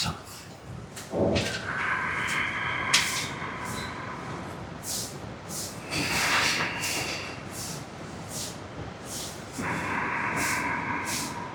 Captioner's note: inhaling and exhaling with closed ears